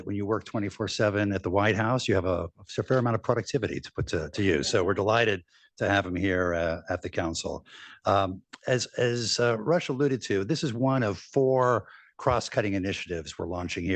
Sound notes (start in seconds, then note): 4.7 laughter